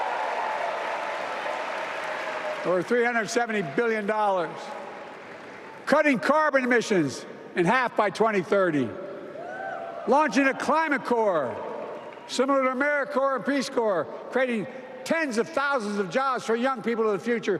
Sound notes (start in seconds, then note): 9.9 applause